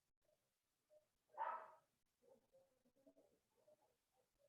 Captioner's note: dog barking